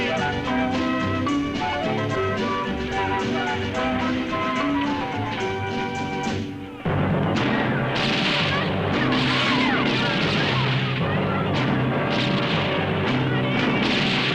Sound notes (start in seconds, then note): 6.8 guns roaring; 6.8 dramatic music